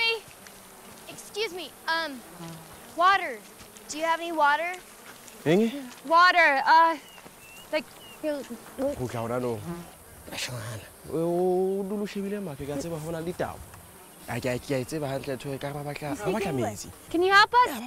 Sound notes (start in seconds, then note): 10.3 Gulping; 10.6 Conversing In Native Language